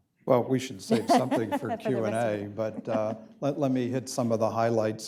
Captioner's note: laughter